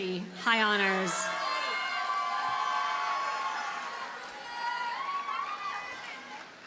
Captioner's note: audience cheers and applauds